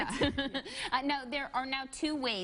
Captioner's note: chuckling